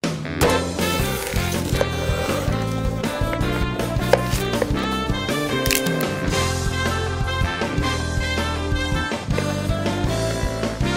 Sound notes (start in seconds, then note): 0.8 upbeat music; 4.1 knife tapping against wooden board; 5.3 celery cracking open